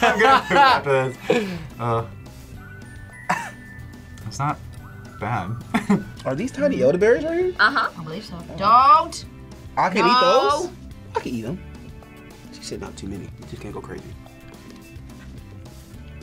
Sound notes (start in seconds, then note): 0.0 both laugh; 3.3 laughs; 5.7 laughs